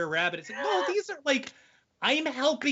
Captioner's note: laughing